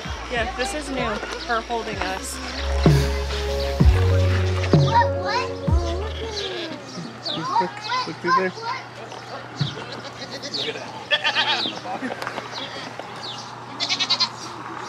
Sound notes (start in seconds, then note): 9.8 goats bleating